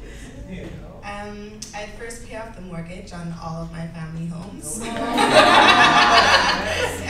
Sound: laughs; laughter

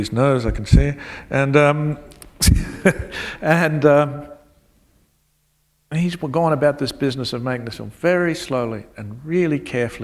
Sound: chuckle

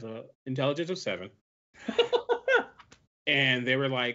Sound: laughs

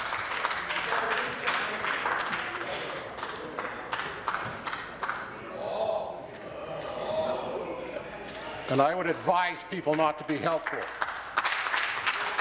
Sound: scattered applause

